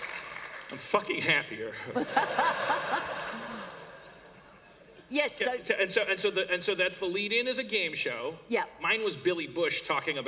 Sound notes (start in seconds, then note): 0.0 laughter and Applause; 1.8 laughter